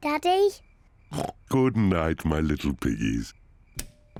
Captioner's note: oinks